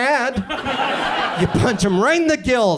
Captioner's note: audience laughs